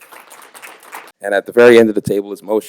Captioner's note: applause